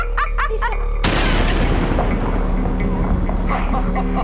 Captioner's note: Abby laughs; gun fires; disturbed laughter